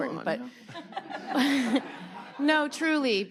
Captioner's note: audience laughing